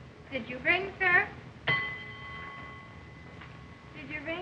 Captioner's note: harpo rings bell